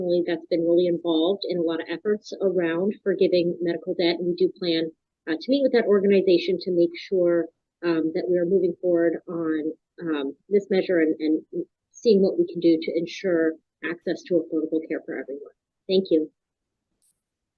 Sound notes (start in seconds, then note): none